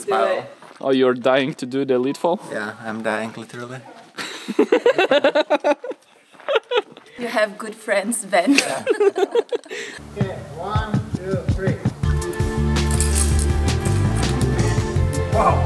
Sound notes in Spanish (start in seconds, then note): 4.1 Risas; 8.5 Risa fuera de la pantalla; 12.0 música emocionante